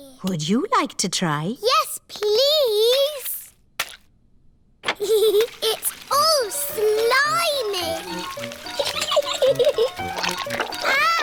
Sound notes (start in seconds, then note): 5.1 giggles